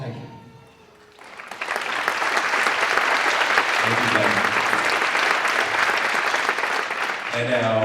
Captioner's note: applause